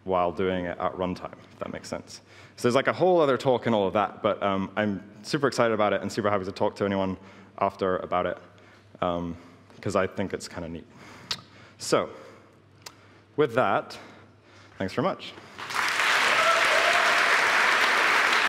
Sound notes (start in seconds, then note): 15.5 applause